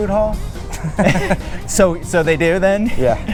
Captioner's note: laughing